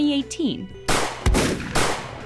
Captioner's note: gunshot